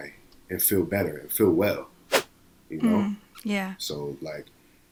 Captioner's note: whoosh